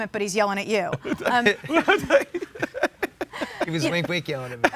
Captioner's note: laughs